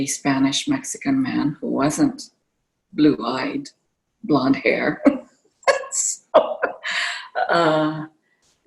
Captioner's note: laughter